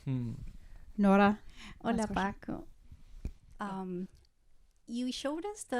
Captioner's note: audience member speaking in foreign language